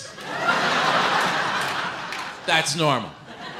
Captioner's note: audience laughs